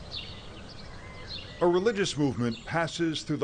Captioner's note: birds twittering